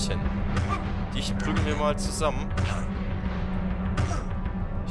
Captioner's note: aaaaand more punch noises; '*punch noises yet yet yet again